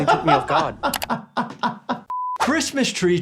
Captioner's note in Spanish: El doctor se ríe